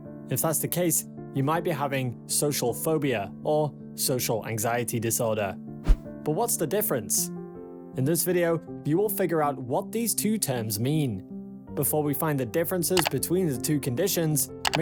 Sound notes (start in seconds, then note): 5.8 screen swishes